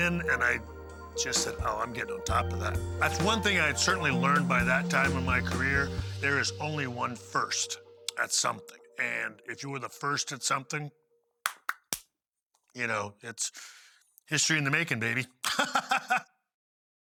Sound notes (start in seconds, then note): 15.4 laugh